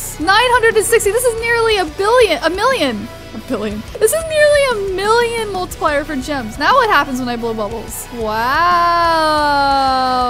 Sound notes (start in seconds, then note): 3.3 laughs